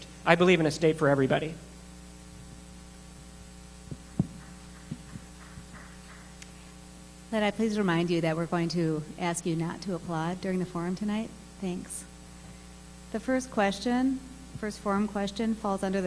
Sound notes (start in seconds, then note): 4.1 applause